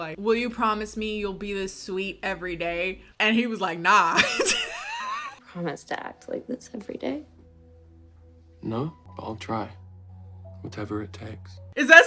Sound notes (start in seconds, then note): 4.1 laughs